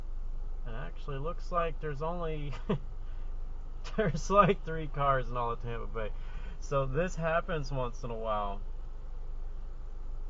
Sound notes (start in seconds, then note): 2.6 chuckle